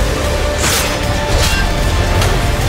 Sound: sword clanging

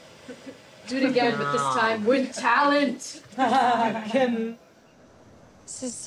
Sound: laughing

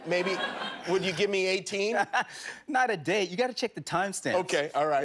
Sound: laughter

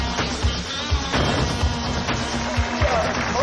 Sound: explosion sounding; audience applauds

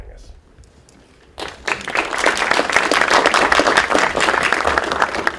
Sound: applause

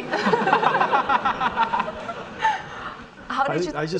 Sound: audience laughing

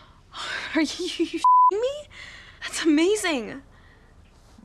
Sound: beeping

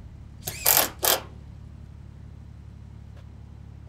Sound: machine drilling

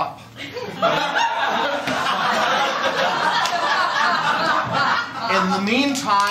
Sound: laughter

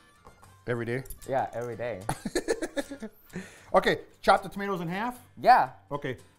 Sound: laughing

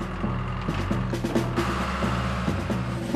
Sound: engine Running

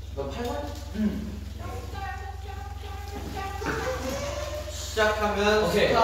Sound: humming

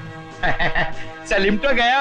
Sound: short Laugh

